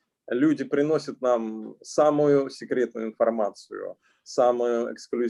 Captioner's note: speaking Russian language